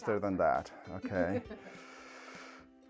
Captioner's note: laughs